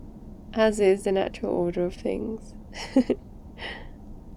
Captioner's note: laughs